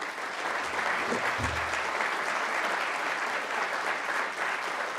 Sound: audience applauding

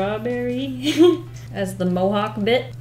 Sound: laughs

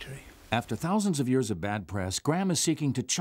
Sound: voiceover

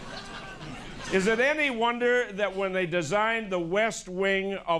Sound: laughter

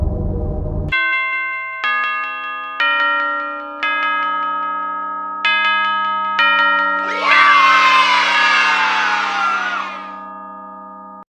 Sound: bells

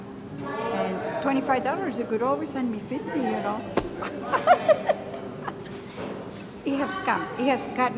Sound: chuckle

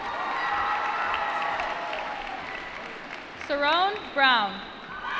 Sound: applause

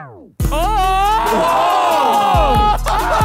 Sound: group In Unison

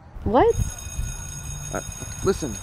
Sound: school bell

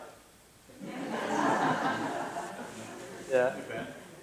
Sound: laughter

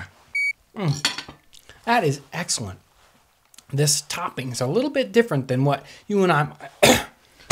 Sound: cough

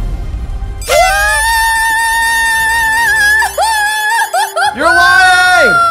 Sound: party flute toots; cheers

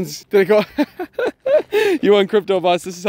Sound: laughing

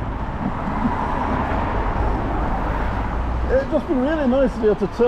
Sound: traffic sounds

